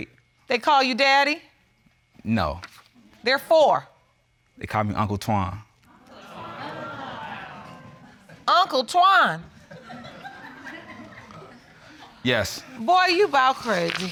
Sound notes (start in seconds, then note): 6.1 audience exclaiming; 9.3 audience laughing